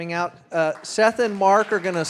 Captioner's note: audience applauding